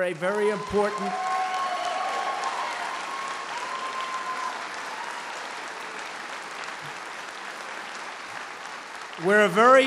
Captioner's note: applause